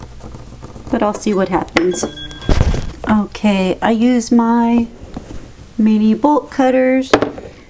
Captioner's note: ping